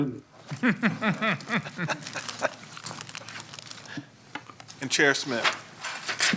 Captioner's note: laughter